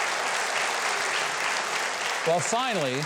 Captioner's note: audience claps